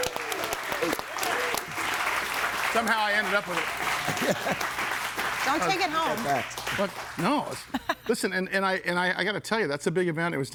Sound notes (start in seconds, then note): 0.0 audience cheering and applauding; 4.1 laughs